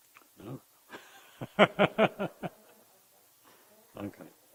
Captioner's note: laughing